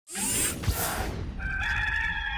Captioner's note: logo swooshing; rooster crowing